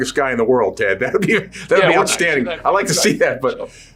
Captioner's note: chuckling